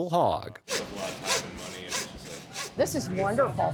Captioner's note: saw cutting